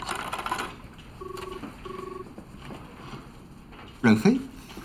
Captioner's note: phone ringing